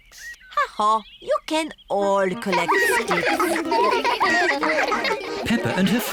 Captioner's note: all giggling